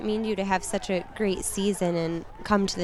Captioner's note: cheering